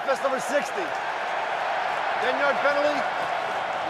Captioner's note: cheering